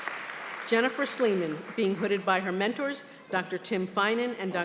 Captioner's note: applause